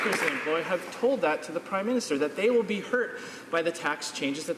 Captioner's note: some Applause